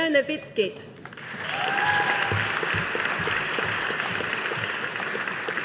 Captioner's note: audience applauding